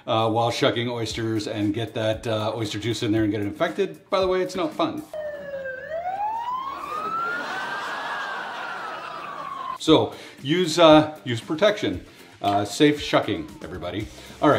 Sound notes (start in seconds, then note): 5.1 ambulance siren ringing; 7.7 crowd laughing